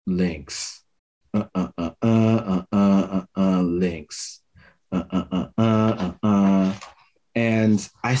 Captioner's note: hums